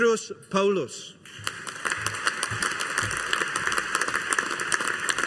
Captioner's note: audience applauding